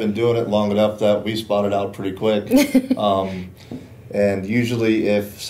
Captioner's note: laughter